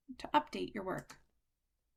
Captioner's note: click